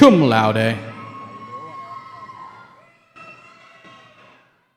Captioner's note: cheering